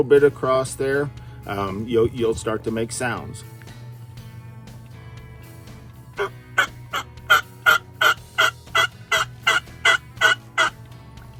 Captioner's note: makes turkey sounds with turkey call